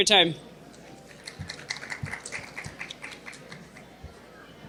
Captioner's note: audience applauding